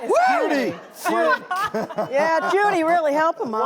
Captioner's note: laughing together